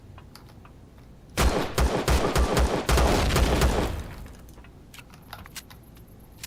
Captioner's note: reloading; pistol firing; reloading